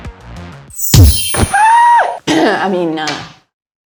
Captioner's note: screams